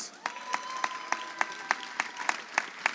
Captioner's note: audience applauds